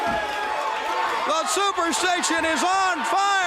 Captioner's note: crowd cheering